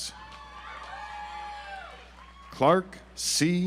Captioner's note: audience applauds